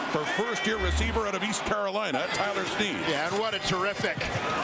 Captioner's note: crowd Noise